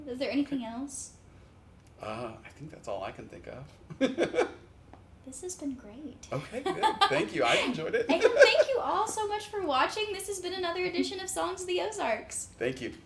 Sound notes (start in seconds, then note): 3.9 chuckles; 6.4 chuckles